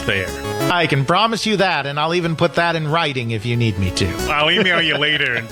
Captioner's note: laughs